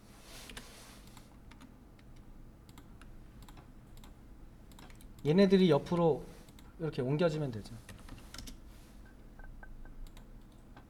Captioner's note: silence